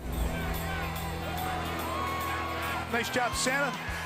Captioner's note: yelling